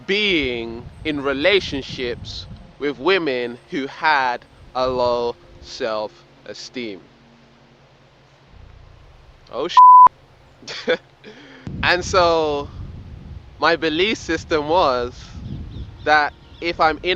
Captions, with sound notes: being in relationships with women who had a low self-esteem. Oh (beeps). (laughs) And so my belief system was that if I'm in a relationship